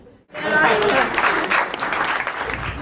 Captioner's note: laughter and applause